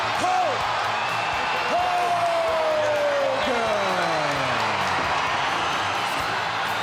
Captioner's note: crowd cheering